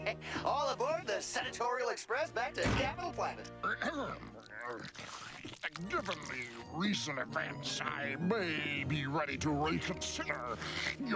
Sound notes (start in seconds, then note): 3.6 clears throat